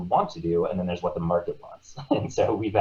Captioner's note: laughing